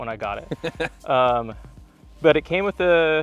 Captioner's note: laughs